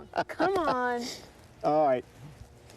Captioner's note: laughing